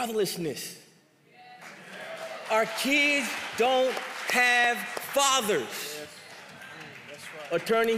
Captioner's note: applause